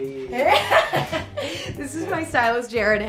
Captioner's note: laughing